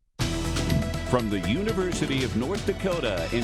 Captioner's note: uptempo, bold news theme; voiceover